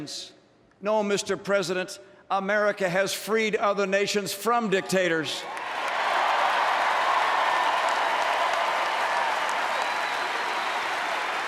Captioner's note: applause